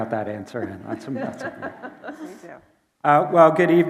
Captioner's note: laughing